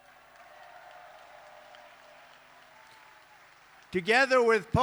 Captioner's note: applause